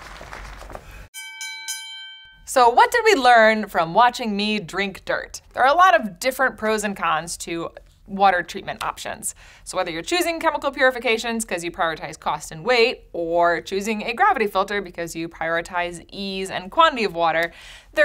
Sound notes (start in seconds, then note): 1.1 bell dings